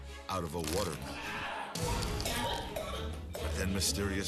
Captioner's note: coughs